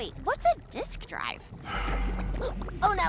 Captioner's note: sigh